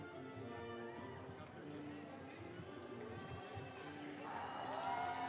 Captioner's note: cheers and applause